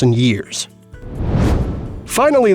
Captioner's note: whoosh